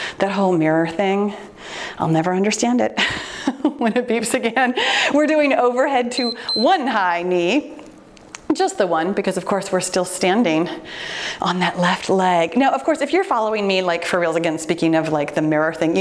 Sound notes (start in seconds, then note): 6.1 timer beeps